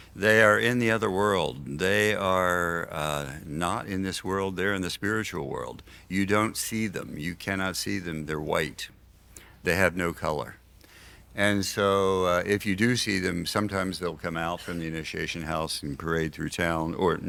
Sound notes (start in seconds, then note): none